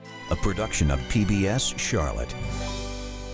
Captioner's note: speaking Polish